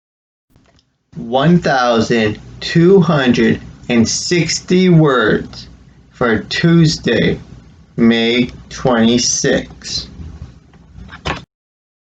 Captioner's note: click